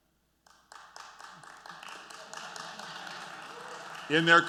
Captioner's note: applause